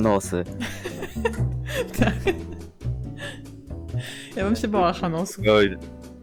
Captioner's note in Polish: śmiech